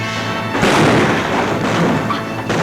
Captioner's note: gun bangs; guns bang